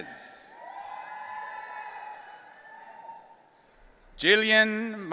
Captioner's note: audience cheering